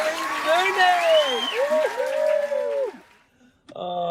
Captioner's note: audience cheering